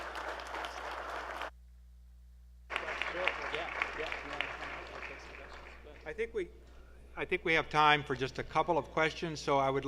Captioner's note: applause